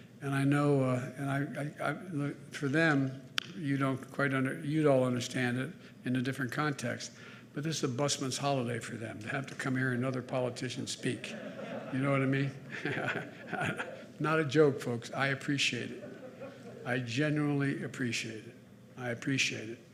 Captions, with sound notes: And I know -- look, for them, you don't quite under- -- you all understand it in a different context, but this a busman's holiday for them, to have to come hear another politician speak. (Laughter.) You know what I mean? (Laughs.) Not a joke, folks. I appreciate it. I genuinely appreciate it. I appreciate it.